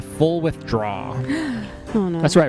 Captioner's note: gasps